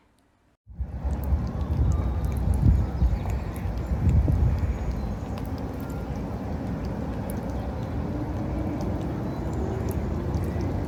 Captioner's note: beach noises: air bubbles, waves, boats, distant birds